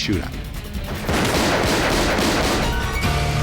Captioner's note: gunfire